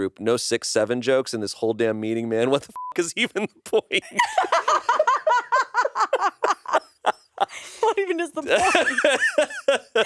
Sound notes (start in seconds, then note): 2.7 beep; 4.1 everyone laughs; 4.1 laughs